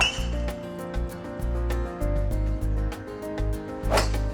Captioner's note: golf clubs smacking